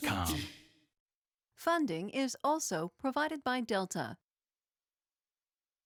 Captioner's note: voiceover